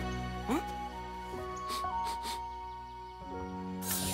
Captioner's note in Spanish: olisquea